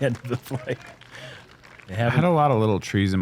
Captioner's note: applause